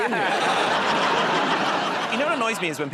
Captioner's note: laughter